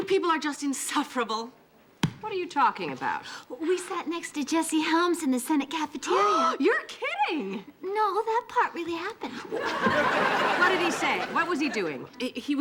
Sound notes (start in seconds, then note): 6.5 gasping